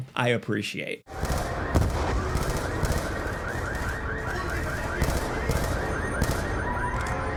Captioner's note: alarms blaring; gun firing